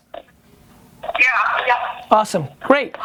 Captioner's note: voiceover